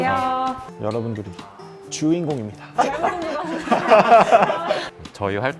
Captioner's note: burst out laughing